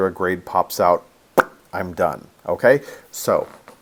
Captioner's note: popping sound